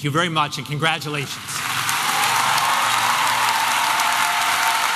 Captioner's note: applause and cheering